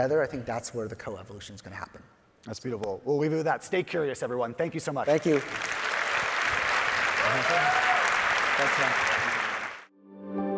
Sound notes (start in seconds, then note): 5.0 audience applauding; 7.4 audience member hollering